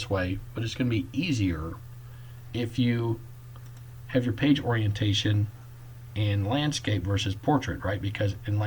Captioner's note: click